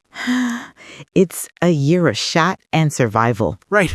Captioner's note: sighs